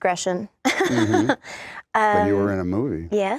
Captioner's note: laughs